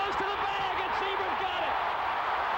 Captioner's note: cheering and applause